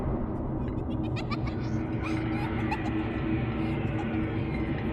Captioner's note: eerie music playing; children's laughter